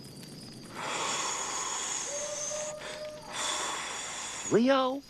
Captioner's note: crickets chirping; Michelangelo blowing